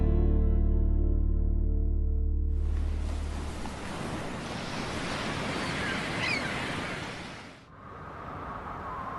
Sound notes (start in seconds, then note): 1.2 seagulls squawking; 2.6 waves murmuring; 6.4 wind blowing